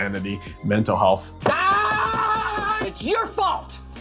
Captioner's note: man shouting